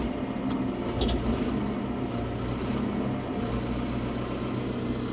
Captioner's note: machinery humming